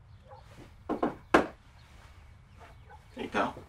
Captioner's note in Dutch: knocking on door